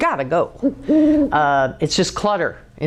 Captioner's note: owl calling